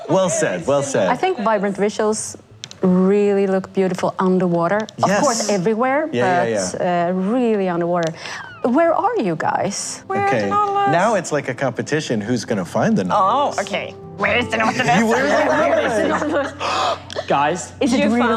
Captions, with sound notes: Well said, well said. I think Vibrant Visuals really look beautiful underwater. -Of course everywhere. -Yeah, yeah, yeah. But really underwater. Where are you guys? Okay, now it's like a competition. Who's going to find the Nautilus? Oh, okay. Where's the Nautilus! [Laughing] [Gasps]